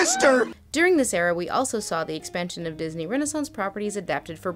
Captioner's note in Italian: voce fuori campo